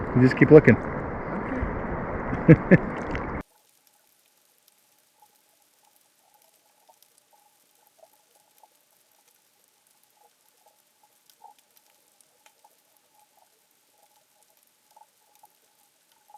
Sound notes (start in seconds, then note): 2.3 chuckles; 3.7 water gurgling